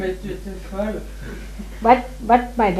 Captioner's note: laughter